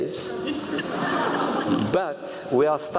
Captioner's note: laugh